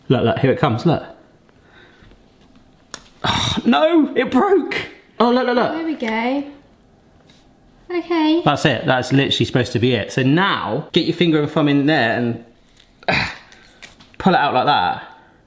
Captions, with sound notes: Look, look, here it comes, look. (leaf snaps) Oh, no it broke. Oh, look, look, look. - There we go. - Okay. - That's it. That's literally supposed to be it. So now, get your finger and thumb in there and (grunts) pull it out like that.